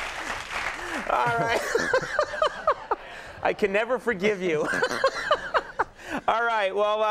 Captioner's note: laughs